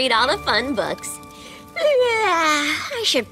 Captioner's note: yawns